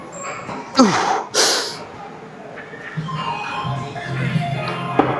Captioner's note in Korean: 콧방귀